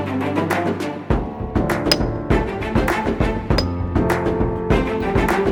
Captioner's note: metal clanking